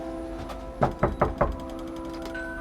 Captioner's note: knocking on door; doorbell rings